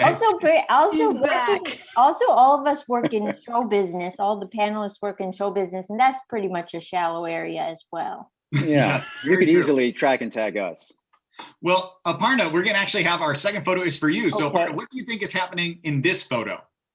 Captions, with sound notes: - That's okay, also all of us work in show business, all the panelists work in show business. And that's pretty much a shallow area as well. (laughing) - Yeah, you could easily track and tag us. - Well, Aparna we're gonna actually have, our second photo is for you. So what do you think is happening in this photo?